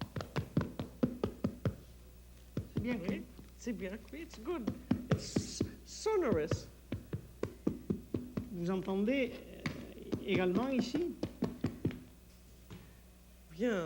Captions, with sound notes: -[ Speaks French ] -It's good. It's sonorous. [ Conversing in French ]